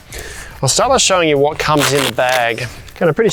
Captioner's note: velcro ripping